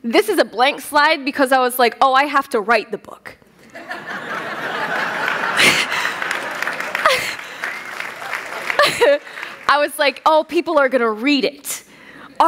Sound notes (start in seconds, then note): 3.6 laughter; 4.7 applause